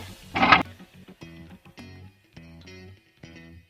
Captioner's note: grinding